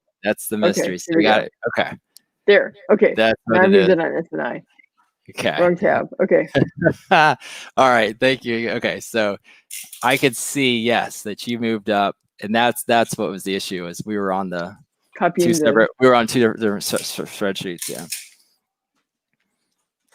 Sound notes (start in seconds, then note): 6.6 laughs